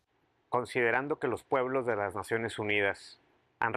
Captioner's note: speaking spanish